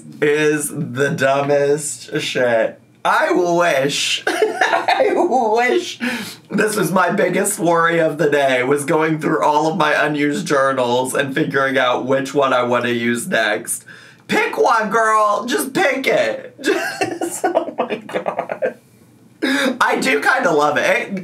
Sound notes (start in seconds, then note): 4.2 laughs; 16.6 laughs